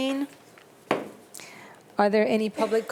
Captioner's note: gavel bangs